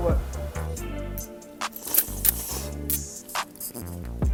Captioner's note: slorp